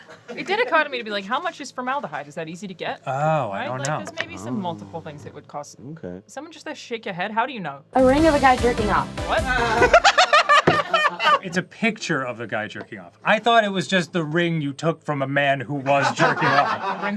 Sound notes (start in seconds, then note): 9.4 cackles joyfully; 9.5 crew laughs